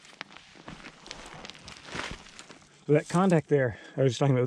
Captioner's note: air whooshing